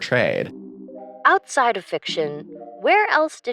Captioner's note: computer Voice